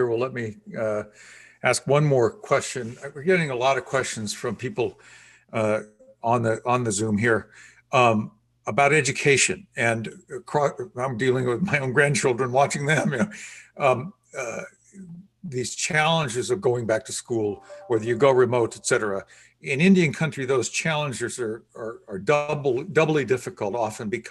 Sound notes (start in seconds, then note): 10.9 laughing